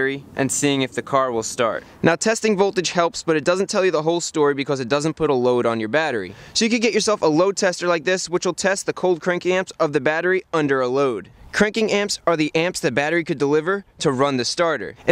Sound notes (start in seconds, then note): none